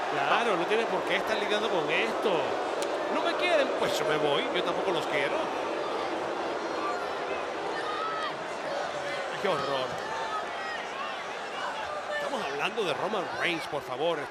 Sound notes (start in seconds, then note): 6.4 applause